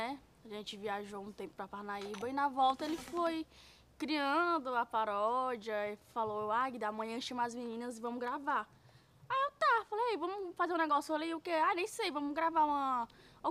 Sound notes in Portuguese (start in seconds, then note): none